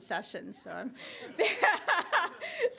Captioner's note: laughter